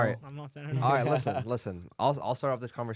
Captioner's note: laughs